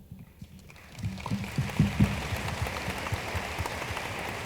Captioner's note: room applauds